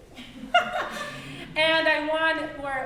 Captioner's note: laughing